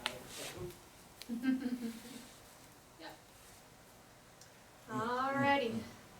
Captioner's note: laughs